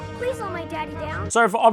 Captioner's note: American accent